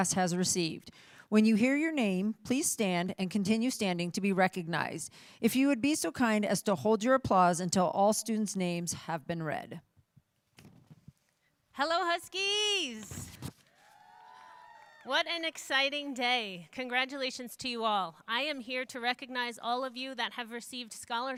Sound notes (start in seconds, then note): 16.2 cheering